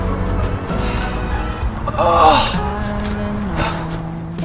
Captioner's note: sigh